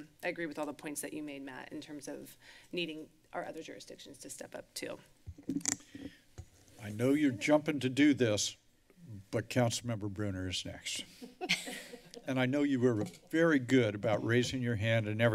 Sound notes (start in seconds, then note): 11.1 laughter